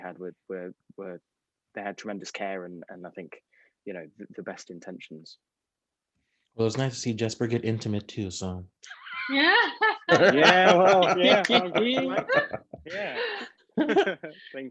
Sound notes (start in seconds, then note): 9.5 laughing